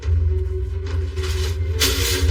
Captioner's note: itemsms clatter